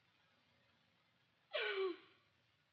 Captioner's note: sobs